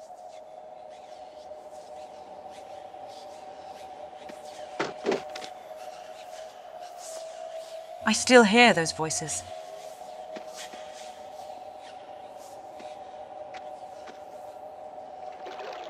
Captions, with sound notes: I still hear those voices. (There are some weird voices in the background in the entire level)